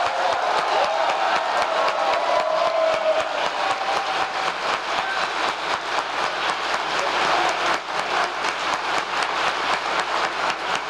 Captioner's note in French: applause